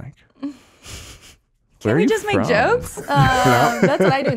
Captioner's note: laughing gently; laughs